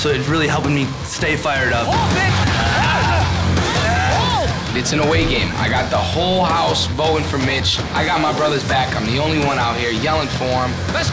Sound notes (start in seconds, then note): 1.7 rock music; 1.8 contestants yelling